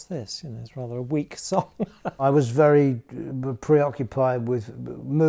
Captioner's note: laughs